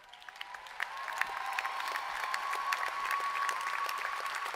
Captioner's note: applause